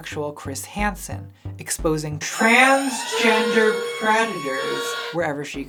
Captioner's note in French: sirène/alarme